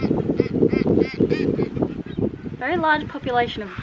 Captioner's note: birds squawking